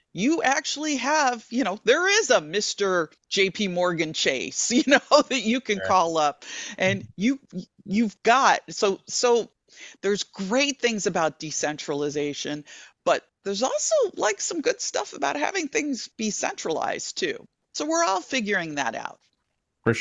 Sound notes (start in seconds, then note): 6.8 chuckling